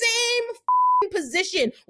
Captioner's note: beep